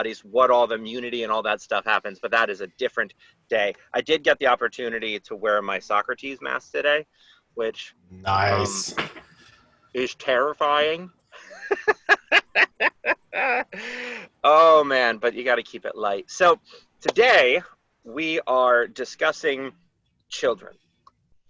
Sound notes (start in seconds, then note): 11.4 laughter